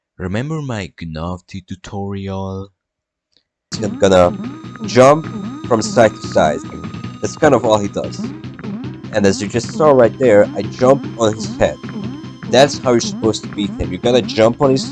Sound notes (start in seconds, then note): 3.8 speaks an unintelligible language